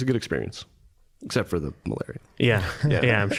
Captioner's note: chuckling